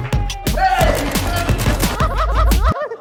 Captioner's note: people cheering around; gun firing